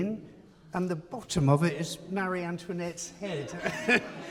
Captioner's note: laughs